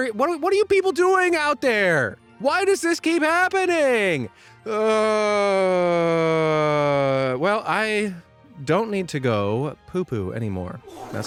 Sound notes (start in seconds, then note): 4.6 sighs